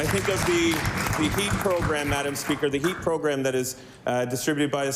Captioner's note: applause